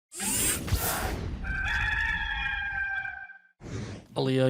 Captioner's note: electronic grating; air whooshes; rooster crows; air whooshes